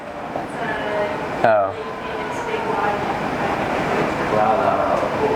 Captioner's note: mumbles